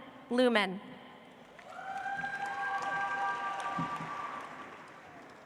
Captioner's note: audience applauds